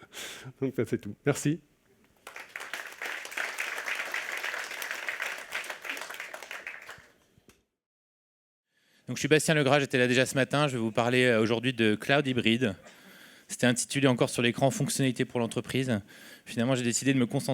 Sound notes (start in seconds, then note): 2.2 applause; 10.8 speaking french